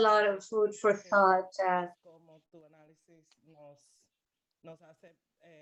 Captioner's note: speaking spanish